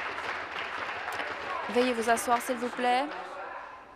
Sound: applause

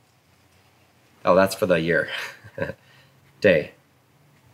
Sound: chuckles

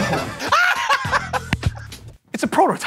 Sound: laughs

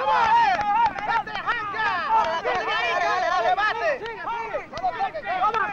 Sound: cheering; speaking spanish

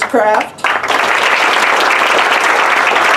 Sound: applause

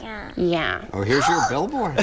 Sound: gasps

